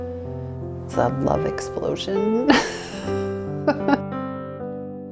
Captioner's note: laughs